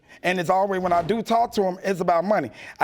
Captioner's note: none